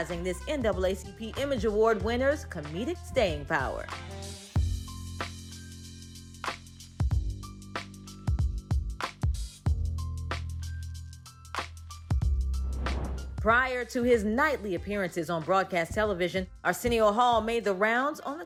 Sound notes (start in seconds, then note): 3.0 upbeat music; 12.5 air whooshes